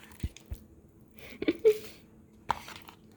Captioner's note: laughing